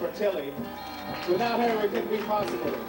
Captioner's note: audience applauds